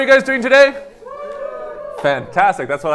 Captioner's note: students cheering